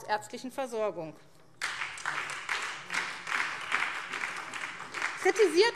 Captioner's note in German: Beifall SPD